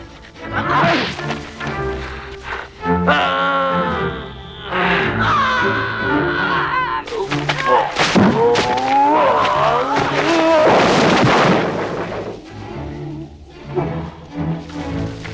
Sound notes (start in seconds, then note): 0.0 Hundra shouts; 0.0 Torente groans; 2.8 Torente groans; 5.3 Hundra roars; 8.3 Torente groaning